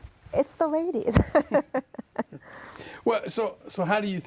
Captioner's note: laughing